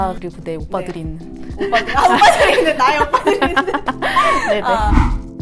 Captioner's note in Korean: 웃음